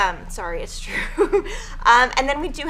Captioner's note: laughing